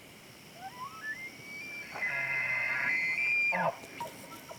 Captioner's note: elk bugles